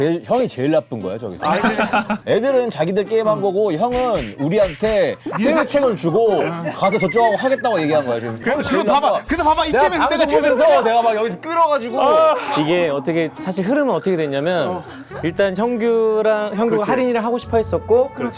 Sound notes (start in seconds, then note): 3.8 tap tap tap tap; 9.3 swallowing hard